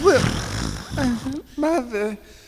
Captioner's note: snoring